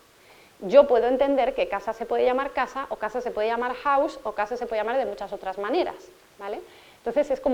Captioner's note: in Spanish